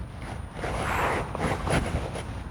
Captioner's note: wooshing noise